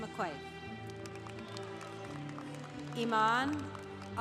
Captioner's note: congregation applauding